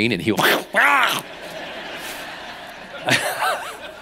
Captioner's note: laughing